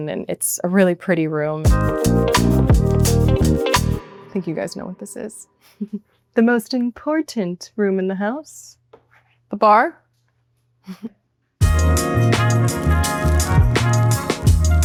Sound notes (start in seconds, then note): 1.6 bright music; 5.6 chuckles; 10.8 chuckles; 11.6 bright music